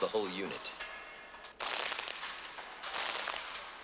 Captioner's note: gunfire